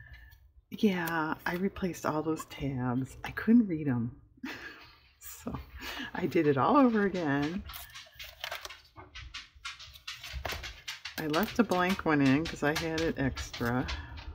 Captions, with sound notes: yeah i replaced all those tabs, i couldn't read them (laughs) so i did it all over again i left a blank one in because i had it extra